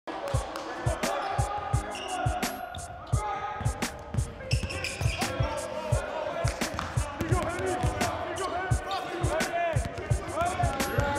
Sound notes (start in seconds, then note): 0.8 people chattering indistinctly; 3.6 soft keyboard music